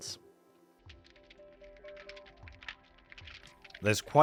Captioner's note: fire crackles